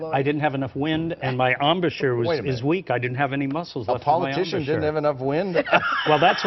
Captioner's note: laughter